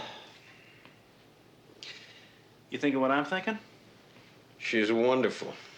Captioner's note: sigh